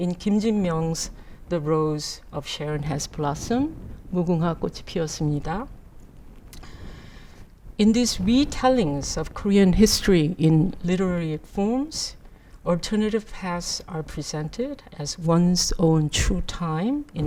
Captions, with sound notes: In Kim Jin-myung's "The Rose of Sharon has Blossomed," (speaks in Korean) in these re-tellings of Korean history in literary forms, alternative paths are presented as one's own true time